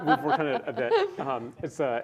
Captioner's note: laughs